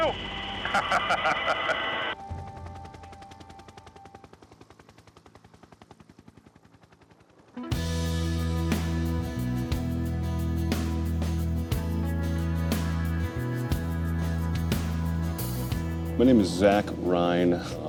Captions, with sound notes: (laughter) (helicopter blades whirring) (cheerful instrumental music) - My name is Zach Rhyne.